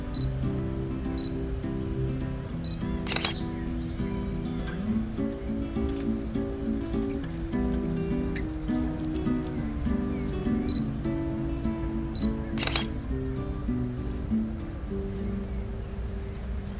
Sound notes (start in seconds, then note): 0.2 camera beeps; 3.0 camera shutter closes; 10.8 camera beeps; 12.5 camera shutter closes